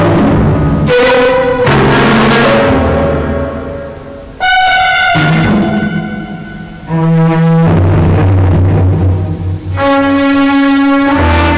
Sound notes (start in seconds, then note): none